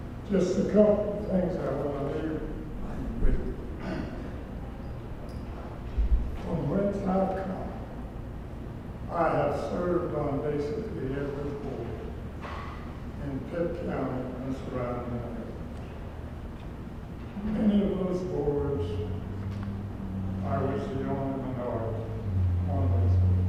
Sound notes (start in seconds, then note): 3.8 cough